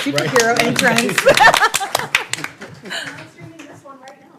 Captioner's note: laughter